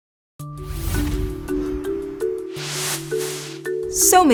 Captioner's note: bright music; air whooshes